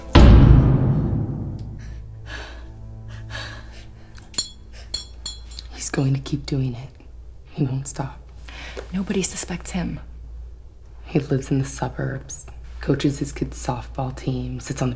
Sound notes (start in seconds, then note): 0.2 door shuts; 2.5 lady whimpering; 4.4 light bulb clicks